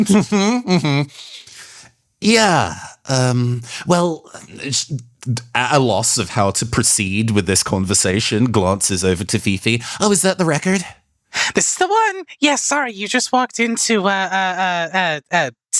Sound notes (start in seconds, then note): 4.6 stutters